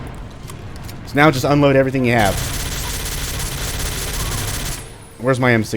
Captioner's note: Ingram spraying frantically